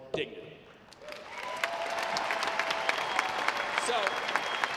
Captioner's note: audience applauding